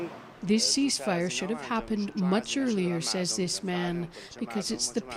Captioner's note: speaking alternate language